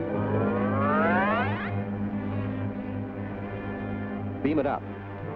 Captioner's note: machine powers up